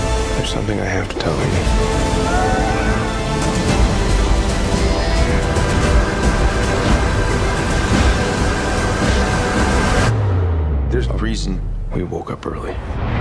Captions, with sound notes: There is something I have to tell you [ Screams ] There is a reason we woke up early.